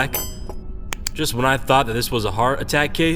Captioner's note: clicks pen